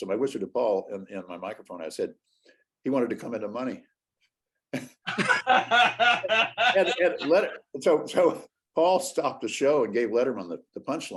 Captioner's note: laughter